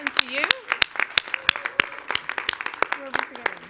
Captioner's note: clapping